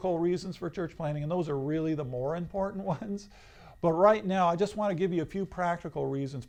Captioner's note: laughs